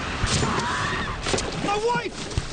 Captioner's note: woman screams